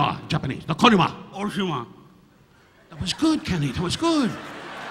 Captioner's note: Don speaking in Japanese; speaking in Japanese; audience laughing